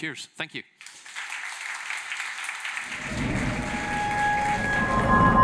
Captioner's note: applause